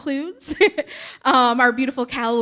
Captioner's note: chuckling